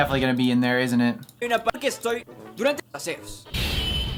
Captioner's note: Spanish